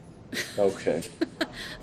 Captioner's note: laughs